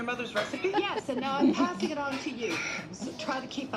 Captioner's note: laughing